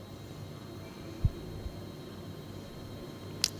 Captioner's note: scanner